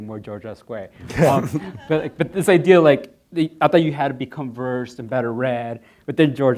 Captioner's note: laughing